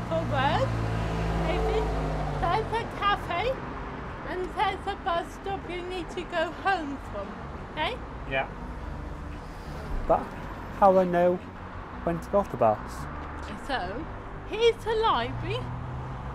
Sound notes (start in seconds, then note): 8.6 traffic noises